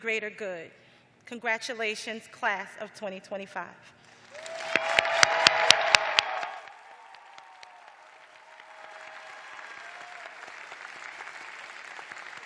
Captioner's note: cheers and applause